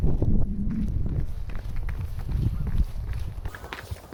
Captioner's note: footsteps running